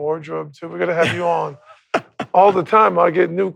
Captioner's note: laughs